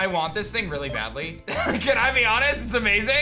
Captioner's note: chuckles